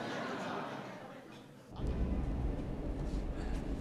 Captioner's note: laughter